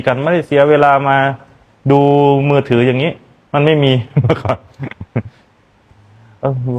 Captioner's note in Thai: เสียงหัวเราะ